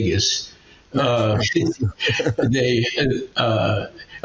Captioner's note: both laughing